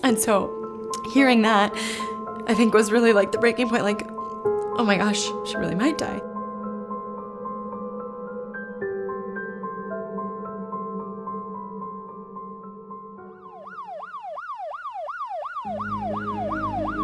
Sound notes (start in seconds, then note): 6.4 piano music; 13.3 sirens